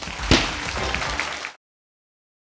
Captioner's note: applause